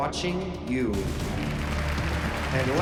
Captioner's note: applause